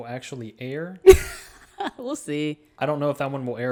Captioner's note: laughs